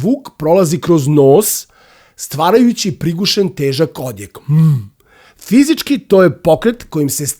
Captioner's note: coughing